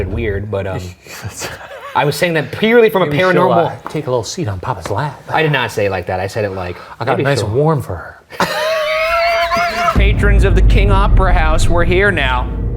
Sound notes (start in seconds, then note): 8.3 laugh